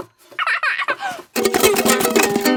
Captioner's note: giggles; vigorous, unpleasant strumming